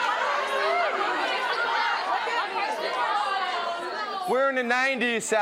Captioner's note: audience expresses disgust